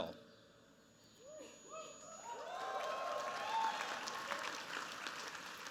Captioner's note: cheers, applause